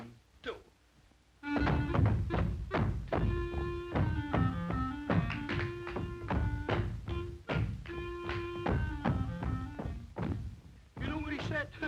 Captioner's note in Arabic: عزف الكلارينيت; ضربات الأقدام